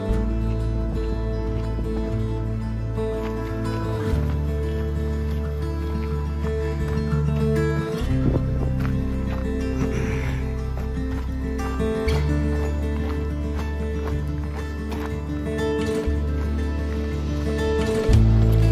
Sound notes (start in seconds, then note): 9.8 clearing throat